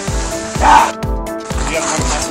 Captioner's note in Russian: лютый орет